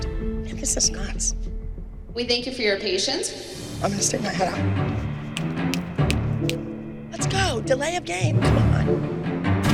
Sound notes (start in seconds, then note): 5.2 snapping fingers